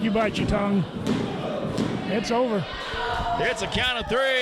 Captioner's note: referee taps mat